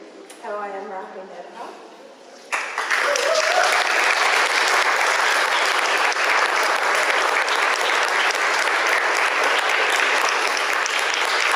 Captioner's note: audience applause